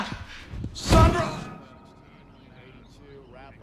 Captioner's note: chattering